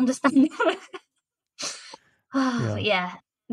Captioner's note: laughter